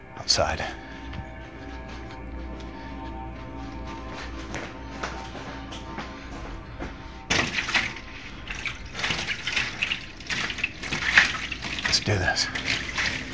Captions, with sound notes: - Outside. (dramatic music) (liquid sloshing) Let's do this.